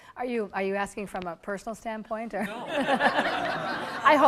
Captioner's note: audience laughter